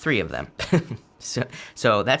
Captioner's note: chuckles